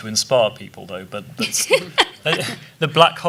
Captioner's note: laughing